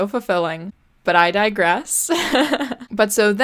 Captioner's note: laughs